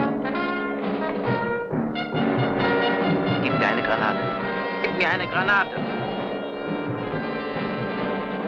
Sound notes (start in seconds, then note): 3.5 speaking in a foreign language